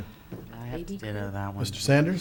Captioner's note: people murmuring